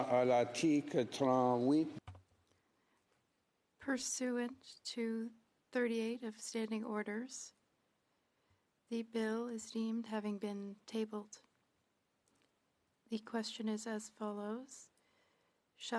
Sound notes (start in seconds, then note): 7.4 speaking French